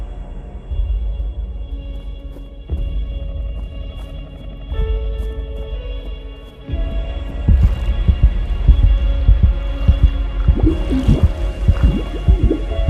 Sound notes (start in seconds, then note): 1.5 suspenseful music; 1.5 water splashing